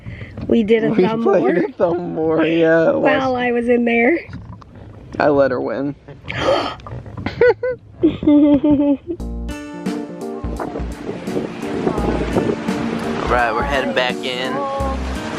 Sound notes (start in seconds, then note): 6.3 gasps; 7.9 both chuckle